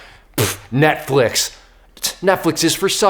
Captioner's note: blows raspberry